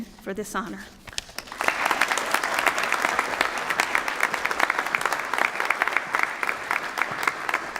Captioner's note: applause